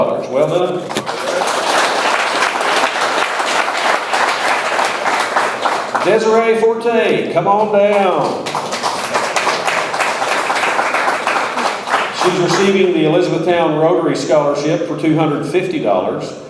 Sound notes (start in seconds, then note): 0.8 audience applauds; 8.0 audience applauds